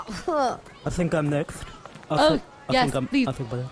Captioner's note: speaking with a speech impediment